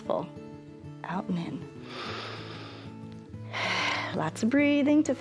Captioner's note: inhales and exhales